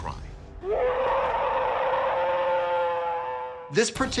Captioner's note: howling